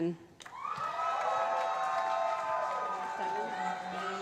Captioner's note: cheering